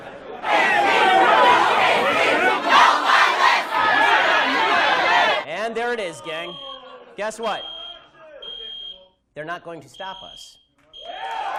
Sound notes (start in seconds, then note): 7.5 fire alarm ringing